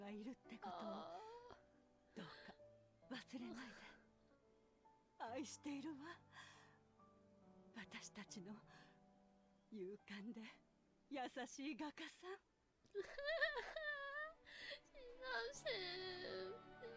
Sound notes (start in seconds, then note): 0.2 in Japanese